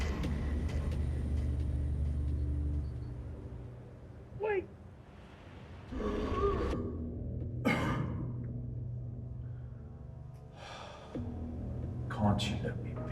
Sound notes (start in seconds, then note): 0.0 ominous music; 7.6 Van Helsing coughing; 10.5 Van Helsing sighing